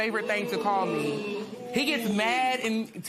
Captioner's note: spectators murmur